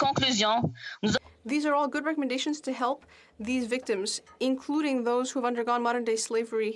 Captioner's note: speaking in French